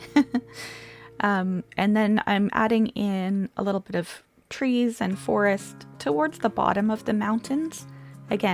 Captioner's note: laughs